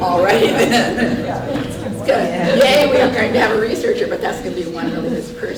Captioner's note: laughter